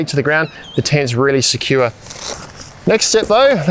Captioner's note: velcro tabs scorching